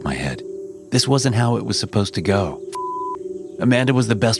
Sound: beep

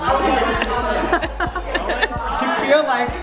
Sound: laughing

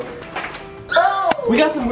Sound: shrieking

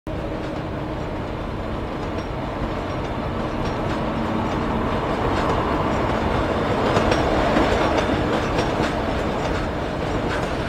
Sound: train noises

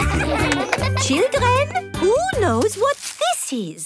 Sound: claps

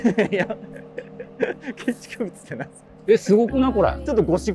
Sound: laughing

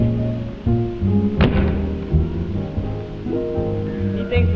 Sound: calm music; door slamming

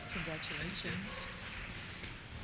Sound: voiceover

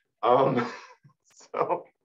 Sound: laughing

